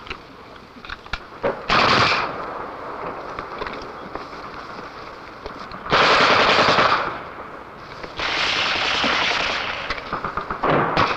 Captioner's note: gun shots